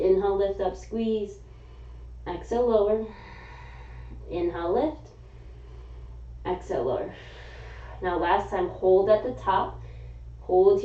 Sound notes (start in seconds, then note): 3.0 exhaling; 7.0 exhaling; 7.1 inhaling